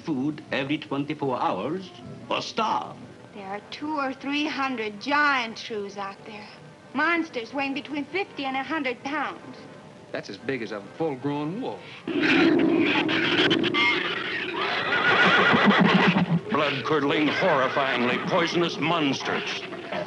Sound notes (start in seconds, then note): 12.0 shrews squealing; 14.4 horse whinnying